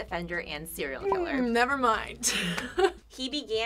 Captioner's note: laughs